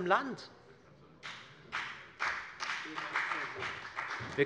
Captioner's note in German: Beifall bei der FDP und bei Abgeordneten der SPD